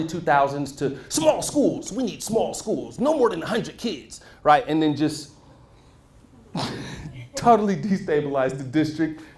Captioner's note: laughs